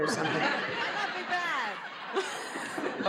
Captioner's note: laughs